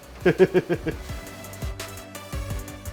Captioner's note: laughing